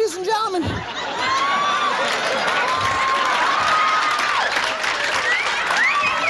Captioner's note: audience clapping and hollering